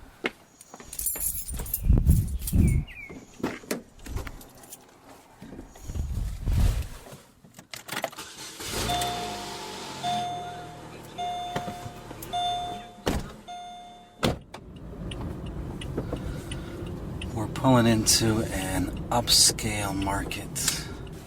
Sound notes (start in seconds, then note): 0.9 keys jangling, car alarm chirping; 8.2 starting ignition, seatbelt reminder beeping; 12.3 car doors slamming; 14.3 turn indicator ticking